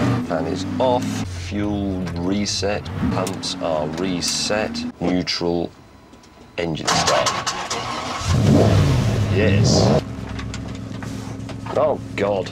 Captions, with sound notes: Fan is off. Fuel reset. Pumps are reset. Neutral. - Engine start. - (Engine sputters) Oh, God.